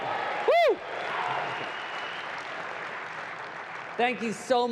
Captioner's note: applause